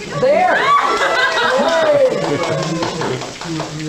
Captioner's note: crowd cheering